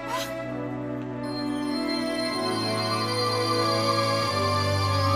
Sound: magical sound

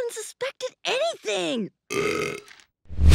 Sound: belching

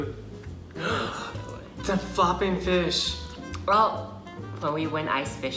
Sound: gasp

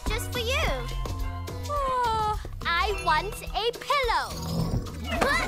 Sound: yawning

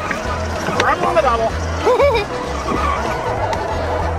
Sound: toy hauler moving

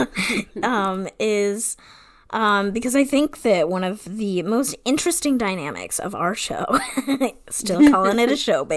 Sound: laughing; laughs

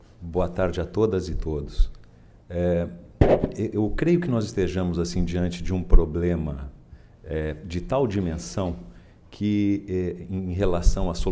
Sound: speaking in Portuguese

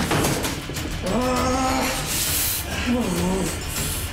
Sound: grunting

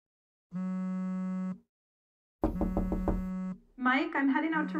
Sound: vibrating phone and knock at door

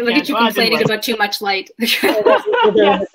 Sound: women laugh

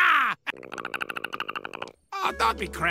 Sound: Perry chatters angrily

